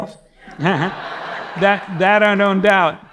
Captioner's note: audience laughing; chuckles